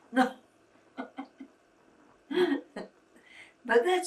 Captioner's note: laughing